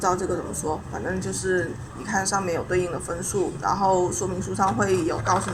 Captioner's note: explaining in Chinese